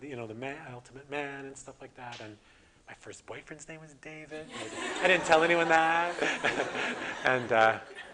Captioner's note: audience: Laughter